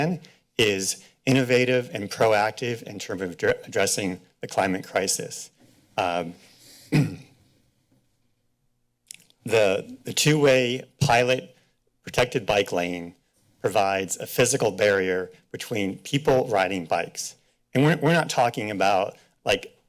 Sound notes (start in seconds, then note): 6.8 clears throat